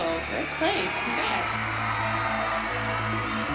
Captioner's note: crowd cheering